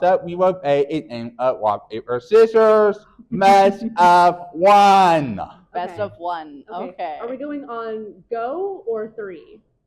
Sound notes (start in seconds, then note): 3.3 chuckles